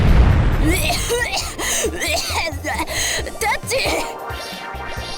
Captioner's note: coughing fit